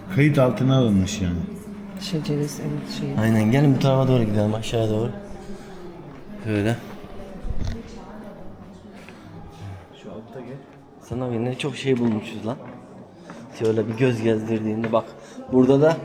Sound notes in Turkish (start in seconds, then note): none